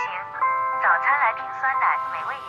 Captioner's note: alarm